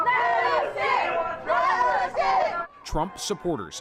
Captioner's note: crowd noise